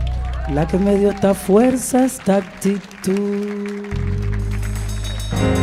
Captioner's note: speaking in Spanish